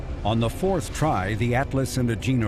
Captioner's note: daunting music; rocket engines roaring